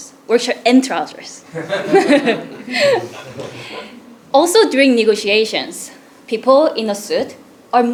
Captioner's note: laugh